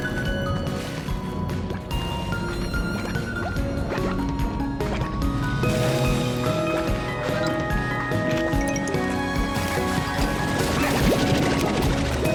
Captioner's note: bubble sounds